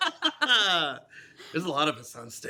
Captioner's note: both laugh